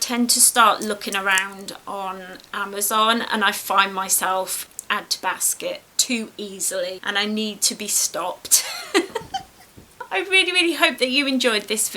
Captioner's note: laughs